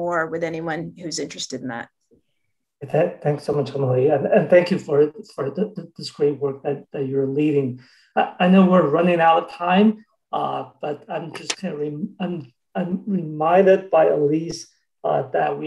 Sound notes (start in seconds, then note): 12.7 murmurs